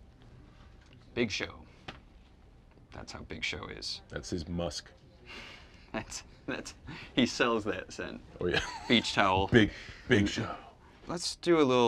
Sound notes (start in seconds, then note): 8.4 John laughs; 8.4 laughs